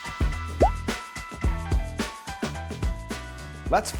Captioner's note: item pops